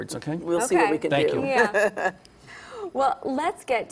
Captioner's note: laughter